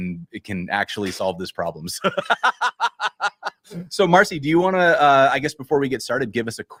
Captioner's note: laughter